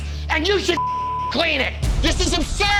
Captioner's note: beep